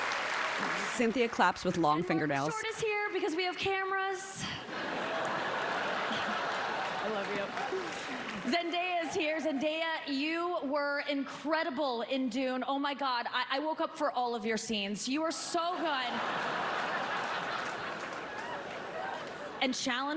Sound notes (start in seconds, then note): 10.2 laughter